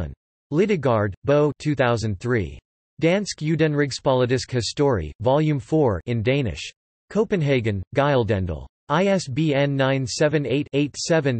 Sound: in Danish

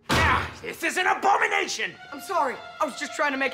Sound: grunting

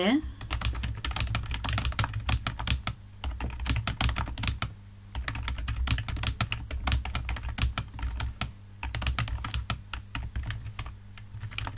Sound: typing

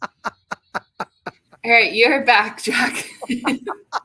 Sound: laughter

